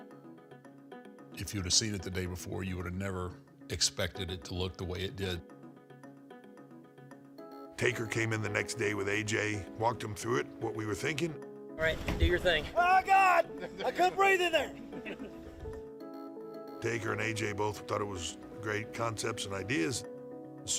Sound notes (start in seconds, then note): 6.7 light music; 15.4 crew laughing